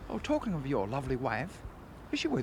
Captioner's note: none